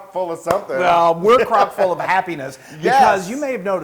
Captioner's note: laugh